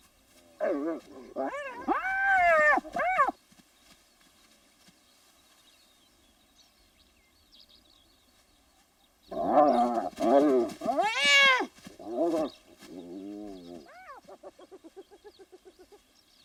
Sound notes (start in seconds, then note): 0.6 hyena whining